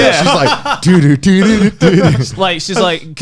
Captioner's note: laughing